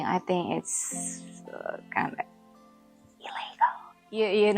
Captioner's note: whispers